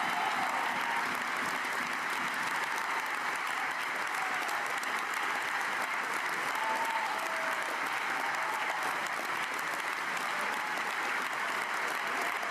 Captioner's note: cheers